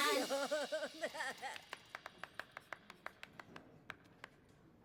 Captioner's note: weak applause